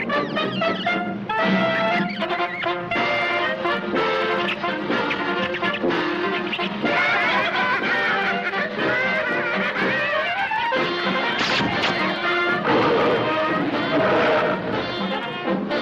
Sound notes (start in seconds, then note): 4.1 monkey chitters; 6.2 kids laughing; 12.6 gorilla roars